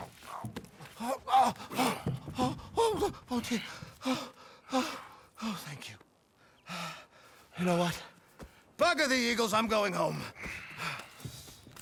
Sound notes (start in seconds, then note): 3.1 breathing heavily